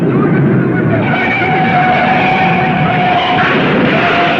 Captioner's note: tires squealing; car crashing